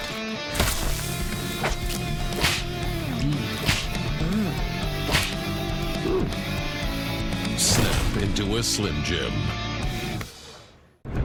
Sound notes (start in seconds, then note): 0.3 transition to electric guitar melody; 2.4 snap; 5.1 snap